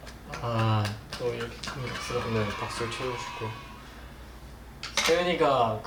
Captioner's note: clapping